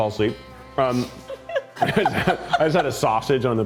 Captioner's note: crew member laughs